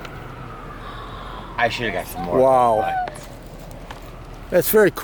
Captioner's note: gasps